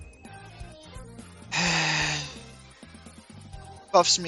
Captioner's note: big sigh part 2